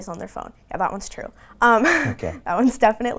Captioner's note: laughing